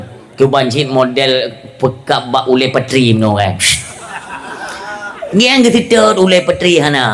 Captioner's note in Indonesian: tertawa